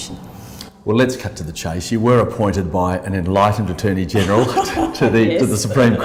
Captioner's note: laughs